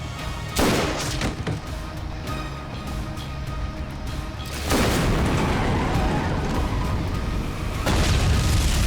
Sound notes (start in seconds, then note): 4.9 tires skidding